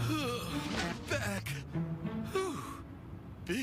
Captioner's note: sighs, groans